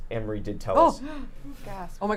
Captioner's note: gasps